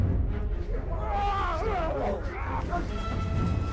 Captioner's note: all grunting